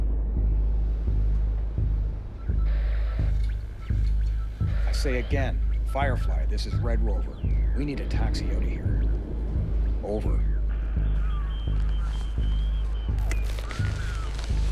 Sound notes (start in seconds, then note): 2.6 static crackling; 10.4 static crackling